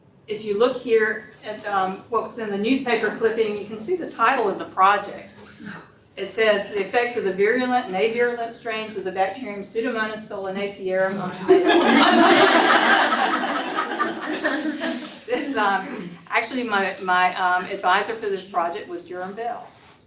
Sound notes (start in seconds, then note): 11.4 laughter